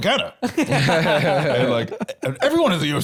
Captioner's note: laughing